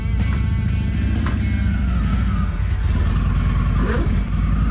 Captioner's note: motorbike revving